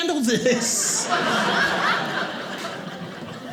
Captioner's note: audience laughing